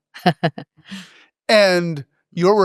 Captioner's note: laugh